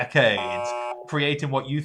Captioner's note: beep